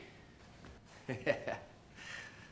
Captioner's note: laughs